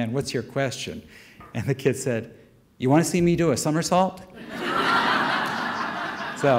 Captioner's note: audience laughter